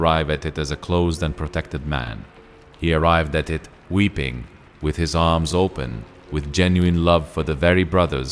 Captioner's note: weeping